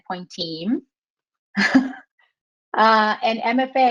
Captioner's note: laughs